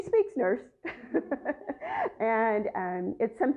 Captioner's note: laughter